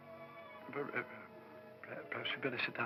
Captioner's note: stammers